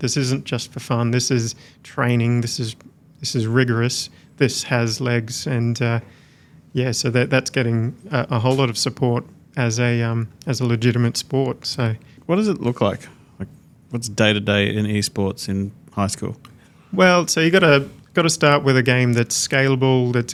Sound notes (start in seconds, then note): none